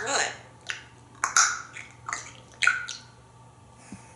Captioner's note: eating sounds